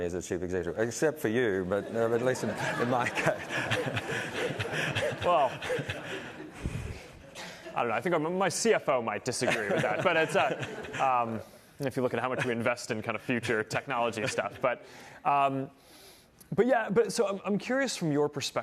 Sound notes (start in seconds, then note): 11.1 laughter